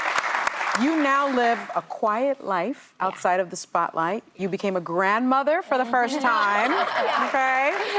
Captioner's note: applause